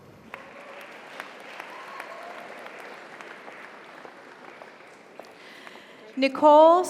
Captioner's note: audience applauds; audience cheers